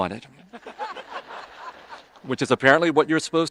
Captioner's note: audience laughing